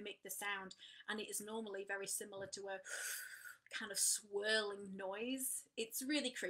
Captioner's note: takes deep inhale